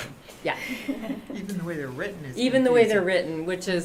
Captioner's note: laughter